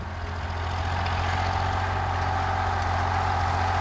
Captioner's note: equipment humming